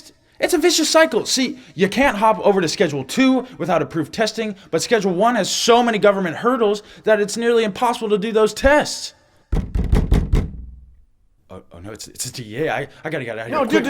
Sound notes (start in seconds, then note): 9.5 knocking on door